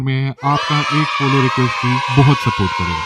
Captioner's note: cheers